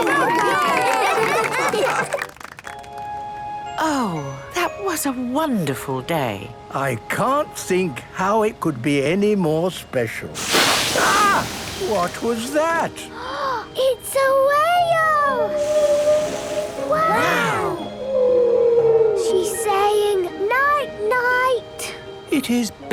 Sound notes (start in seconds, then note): 0.0 cheering, applause; 15.4 whale calling; 15.6 gasps; 18.8 whale calling